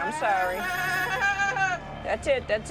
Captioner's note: yelling in pain